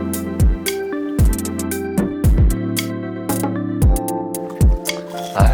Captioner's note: back to munching